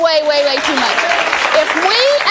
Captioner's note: audience applauding